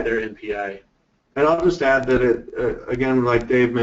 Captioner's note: voiceover